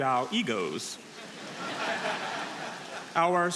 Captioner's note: audience laughing